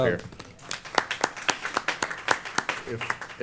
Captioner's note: applause